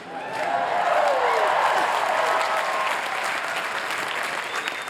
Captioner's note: cheering